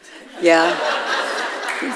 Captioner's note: audience laughing